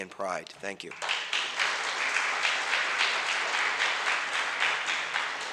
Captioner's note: audience applauds